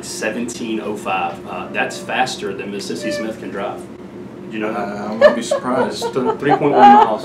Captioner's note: background laughter